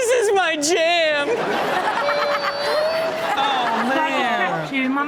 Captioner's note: all laugh